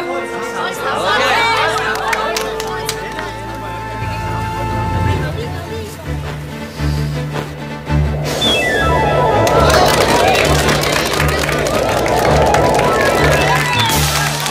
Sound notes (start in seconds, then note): 0.0 crowd; 6.7 inhales, blows